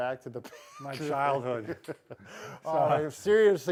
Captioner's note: chuckle